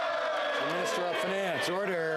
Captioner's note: some Applause